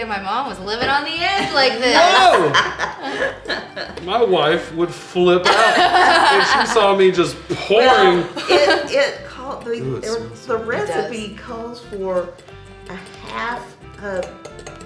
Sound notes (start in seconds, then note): 3.1 laughing; 5.4 laughing